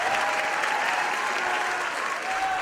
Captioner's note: cheering; cheering and screaming